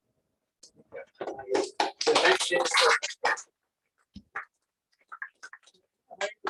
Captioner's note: applause